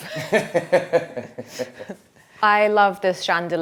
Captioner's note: chuckles; laughs